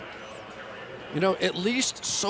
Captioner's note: pa announcement